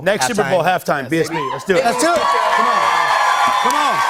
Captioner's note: cheers and applause